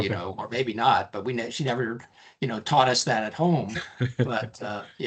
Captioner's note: laughing